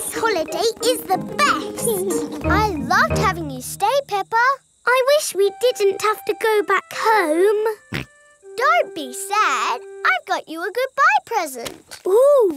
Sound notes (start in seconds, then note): 7.6 snorts